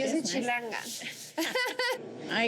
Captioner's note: laugh